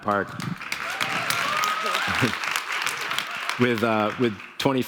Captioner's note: clapping and cheering